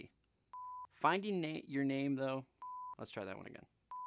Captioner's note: device beeps